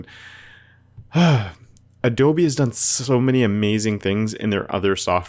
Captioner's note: sighs